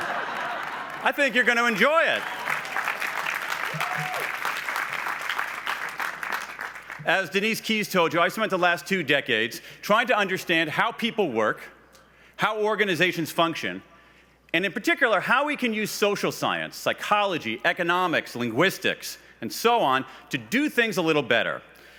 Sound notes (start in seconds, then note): 0.1 laughs; 4.3 applause